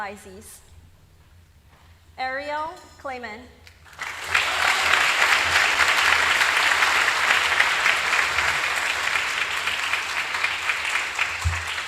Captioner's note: applause